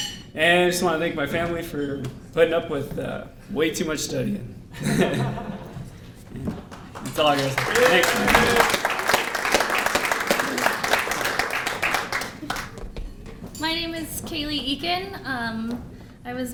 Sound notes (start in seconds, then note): 4.8 laughing; 8.2 applause